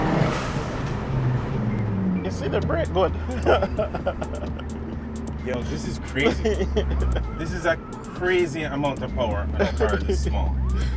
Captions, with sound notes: - You see the brake, what? (laughing) - Yo, this is crazy. This is a crazy amount of power. I'm gonna try this small.